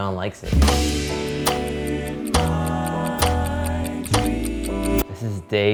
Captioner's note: light music; timer ticking